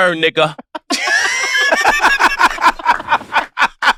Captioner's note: all laugh